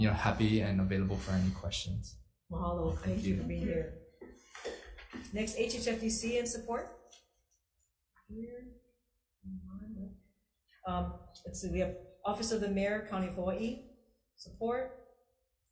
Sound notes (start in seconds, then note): 8.8 offscreen Voice